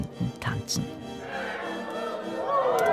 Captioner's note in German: Jubel